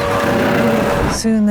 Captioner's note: screaming